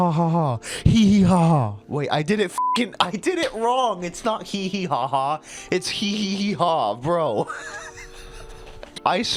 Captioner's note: wheezing